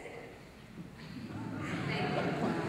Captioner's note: laughter